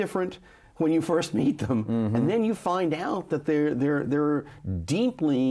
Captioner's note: chuckles